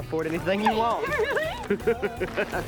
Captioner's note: laughing